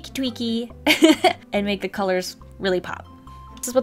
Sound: laughs

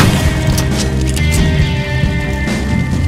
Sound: gunshots; gunshots

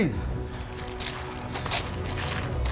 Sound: paper bag rustles; dramatic music plays

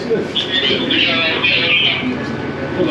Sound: radio noises

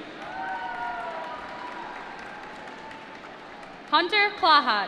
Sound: applause

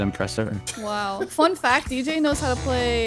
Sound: laughing amusingly

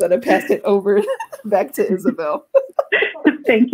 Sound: laughs

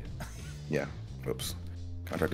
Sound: laugh

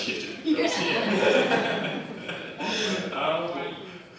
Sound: audience laughs

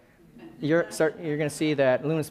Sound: laughing

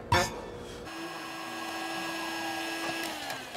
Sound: whirring

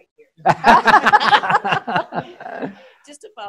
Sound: laughter

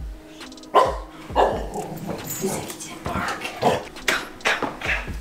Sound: barking

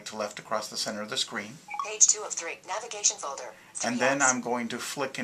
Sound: VoiceOver, Synthesized Speech

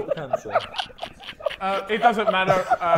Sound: Sidemen laughing

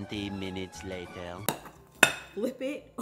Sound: bowl clangs

